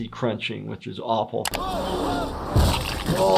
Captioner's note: Disco Bear yelling; car crashing; exclaiming